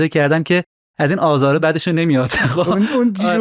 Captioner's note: laughs